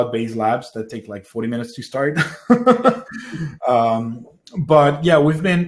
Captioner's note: laughs